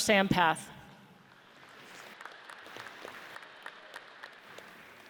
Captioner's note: audience applauds